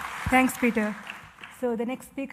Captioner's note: applause